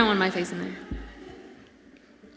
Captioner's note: audience laughs